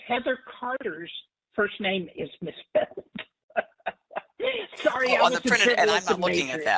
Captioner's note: laugh